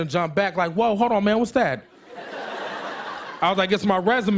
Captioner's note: laughter